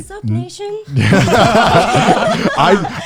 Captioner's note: all laughing